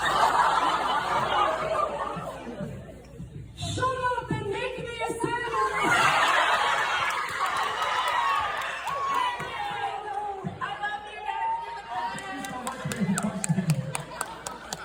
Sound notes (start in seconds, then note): 0.0 audience laughs; 5.0 happy audience noises